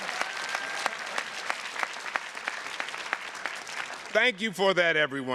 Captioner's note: audience applauding